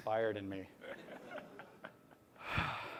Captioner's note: laughter